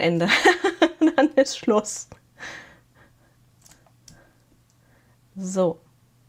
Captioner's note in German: gelächter